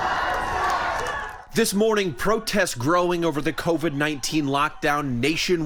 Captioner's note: crowd chanting